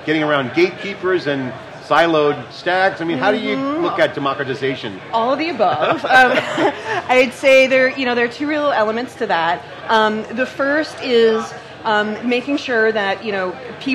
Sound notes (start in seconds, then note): 5.6 laughs